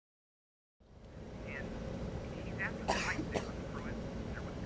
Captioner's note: Pruitt coughs